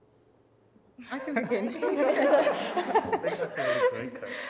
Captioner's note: laughs